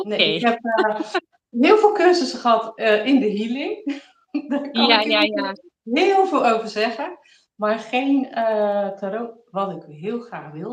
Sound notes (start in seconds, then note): 3.0 laughs